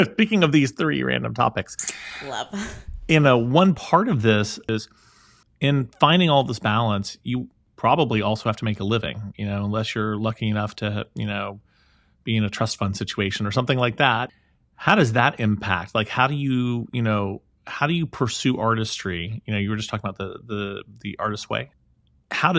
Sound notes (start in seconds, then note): 1.8 chuckles